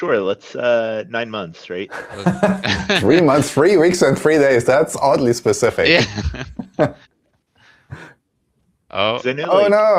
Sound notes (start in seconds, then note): 5.8 laughter